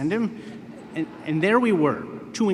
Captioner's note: laughter